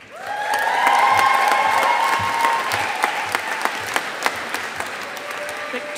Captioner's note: audience applauding